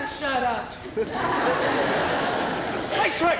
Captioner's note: laughter